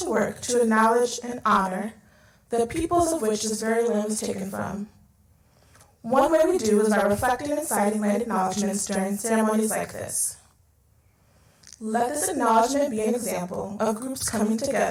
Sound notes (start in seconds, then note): none